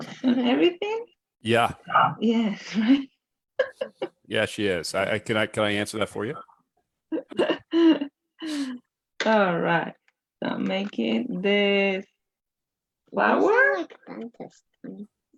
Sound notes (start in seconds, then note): 0.0 laughs; 2.9 laughs; 8.4 chuckles; 9.7 laughs